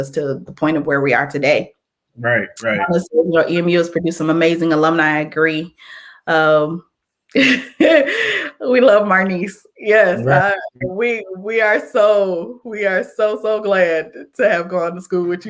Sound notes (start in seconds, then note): 7.3 laughter